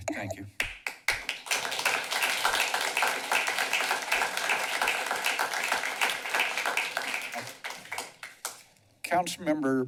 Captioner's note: clapping